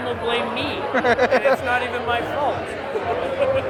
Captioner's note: laughing